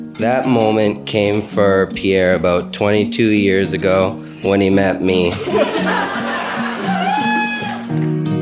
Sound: laughing

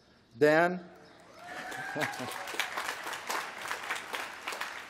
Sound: applause

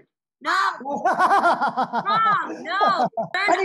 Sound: laughs out loudly; laughing uncontrollably

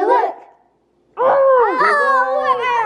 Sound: kids exclaim

